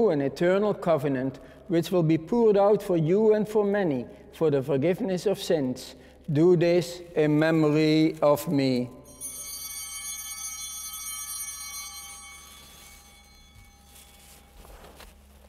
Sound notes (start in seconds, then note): 9.0 bell ringing